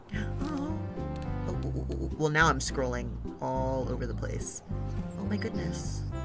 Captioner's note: gasps